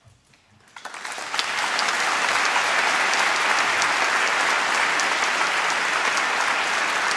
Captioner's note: applause